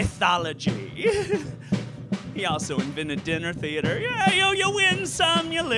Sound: giggle

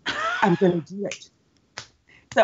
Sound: Brennan laughs and claps

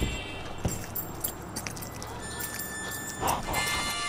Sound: spurs jingling

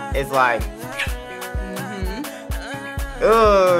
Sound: kisses

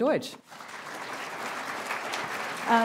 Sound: applause

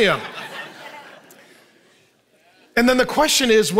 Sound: audience laughing

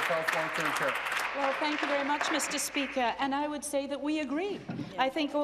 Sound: applause

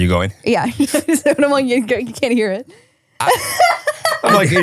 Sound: laughing

